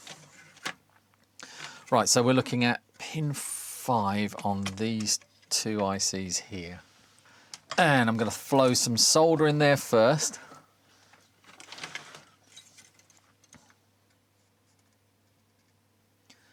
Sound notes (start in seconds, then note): none